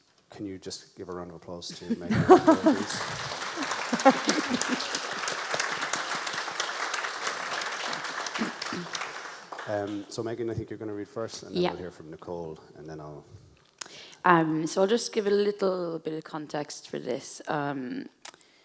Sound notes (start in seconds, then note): 2.9 audience applauds; 3.9 claps